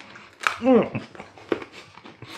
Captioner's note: crunch